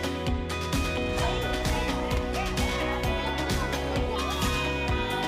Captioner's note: children talking; cheering